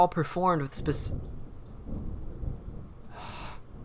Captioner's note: rain falls; thunder rumbles; sighs exasperatedly